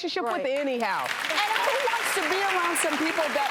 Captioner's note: applause